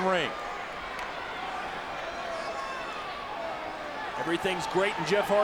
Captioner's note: audience chattering